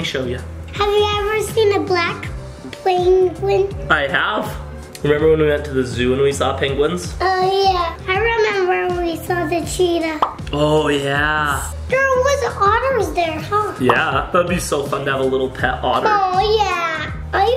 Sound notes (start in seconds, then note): 10.2 pop